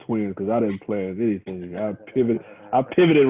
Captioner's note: laughs